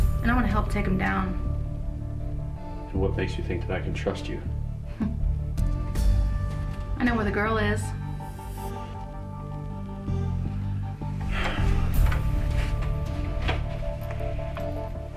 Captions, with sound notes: and I want to help take 'em down. - So what makes you think that I can trust you? (Denise chuckles) - I know where the girl is. (Jason sighs)